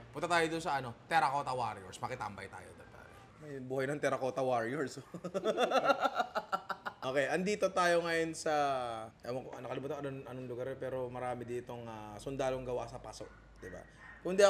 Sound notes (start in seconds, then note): 5.0 laughs